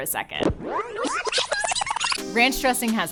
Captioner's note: tape rewinds; electronic music